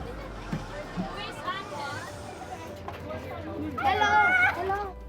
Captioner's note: children talking